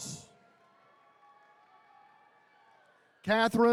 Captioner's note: attendees cheering